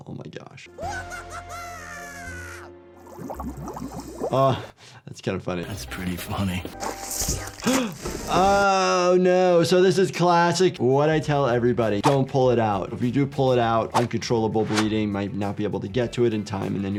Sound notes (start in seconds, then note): 1.2 cat yelling; 2.9 blood bubbling; 7.0 liquid sloshing; 7.6 doctor gasping